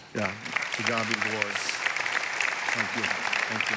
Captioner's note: congregation applauding